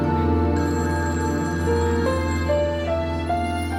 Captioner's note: phone ringing